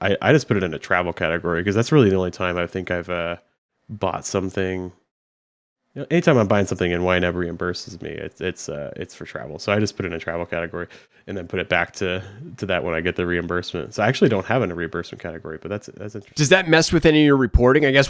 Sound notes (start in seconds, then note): none